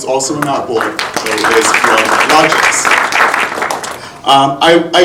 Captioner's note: audience applauding